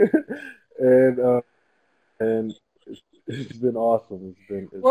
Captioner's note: laugh